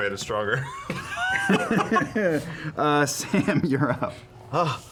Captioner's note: laughing